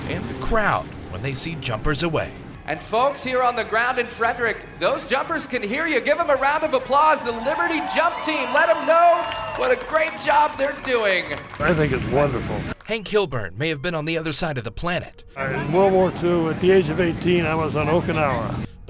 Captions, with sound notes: and the crowd, when they see jumpers away. And folks here on the ground in Frederick, those jumpers can hear you, give 'em a round of applause. The Liberty Jump Team. (audience cheering) Let 'em know what a great job they're doing. I think it's wonderful. Hank Kilburn may have been on the other side of the planet-- In World War II, at the age of 18, I was on Okinawa.